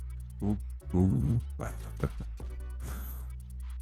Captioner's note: monkey sounds